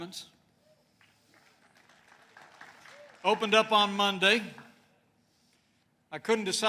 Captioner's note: applause